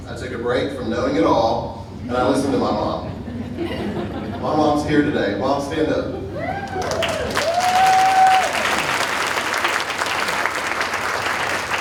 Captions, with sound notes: I took a break from knowing it all and I listened to my mom. (audience laughing) My mom's here today, mom, stand up. (audience cheering and applauding)